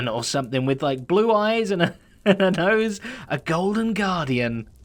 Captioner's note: chuckles